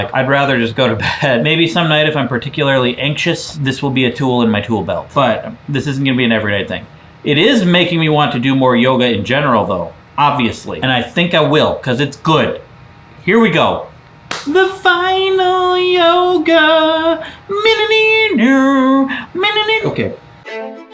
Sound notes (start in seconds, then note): 14.3 hands smack; 20.5 upbeat classical music